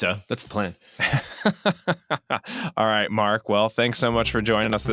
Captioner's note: laughs